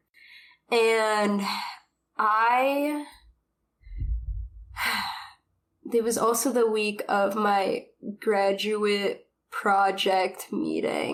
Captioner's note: sighs